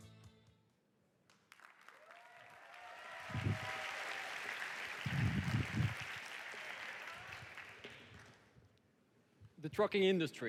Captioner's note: audience cheering